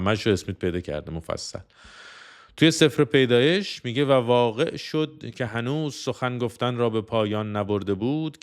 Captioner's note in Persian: صدای بند آمدن نفس